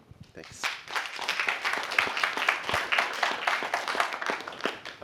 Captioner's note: applause